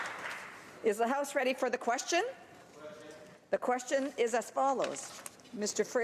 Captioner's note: applause